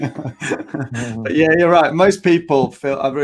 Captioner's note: laughing